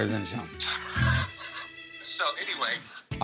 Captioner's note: laughs